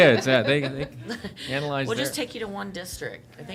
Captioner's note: laughter